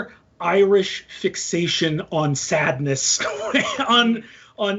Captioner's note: laughs